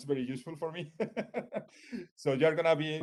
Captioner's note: chuckles